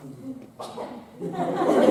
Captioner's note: ahem